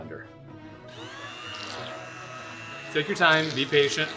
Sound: blender whirring

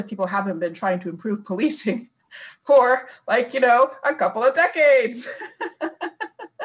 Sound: laughing

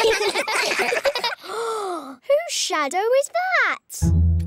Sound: all giggle; gasps

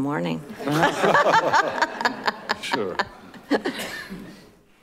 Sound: all laughing

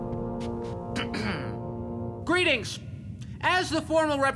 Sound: clearing his throat

